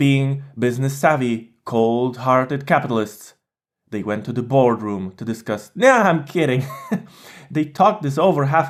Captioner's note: laught